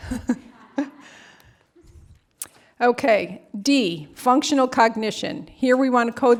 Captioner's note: laughter